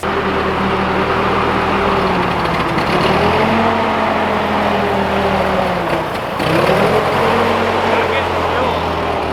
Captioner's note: tractor running